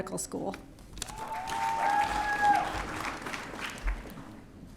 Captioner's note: audience cheering